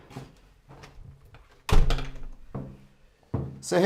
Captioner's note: closing door